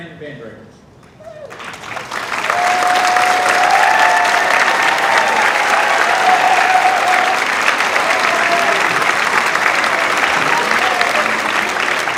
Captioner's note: applause